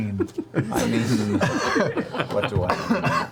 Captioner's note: all laugh